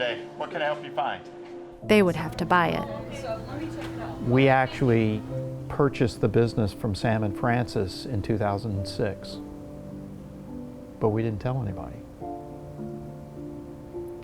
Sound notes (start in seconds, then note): none